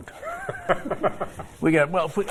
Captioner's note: laughter